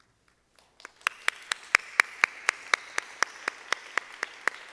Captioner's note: audience clapping